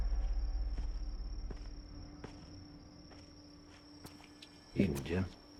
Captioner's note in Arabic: موسيقى متوترة; خطى تقترب